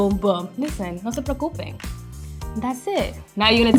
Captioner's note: speaking foreign language